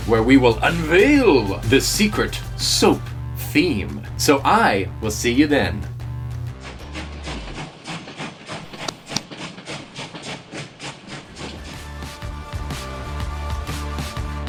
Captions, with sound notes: Where we will unveil the secret soap theme. So I will see you then. (train chugging) (stamp pounding) (upbeat music)